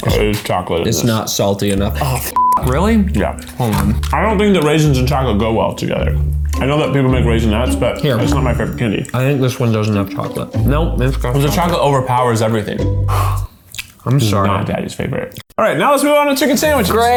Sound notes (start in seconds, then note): 2.3 beep; 13.0 sighs